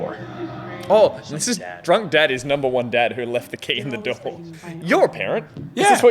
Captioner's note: none